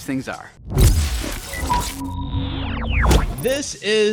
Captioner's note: graphics crackling